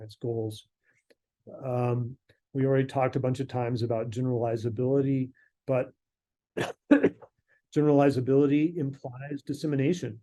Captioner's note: coughs